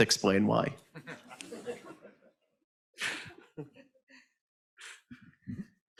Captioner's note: audience laughing